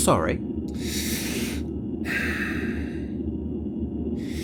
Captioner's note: logan takes a deep breath